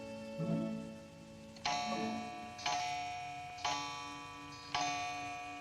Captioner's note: clock chiming